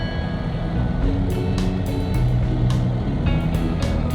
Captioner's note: airplane engine hums